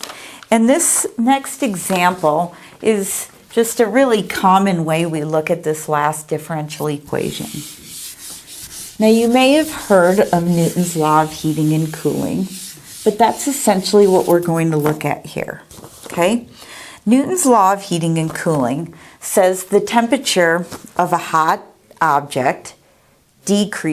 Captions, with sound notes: And this next example is just a really common way we look at this last -differential equation. -(eraser wiping board) Now, you may have heard of Newton's Law of Heating and Cooling, but that's essentially what we're going to look at here, okay? Newton's Law of Heating and Cooling says the temperature of a hot object decreases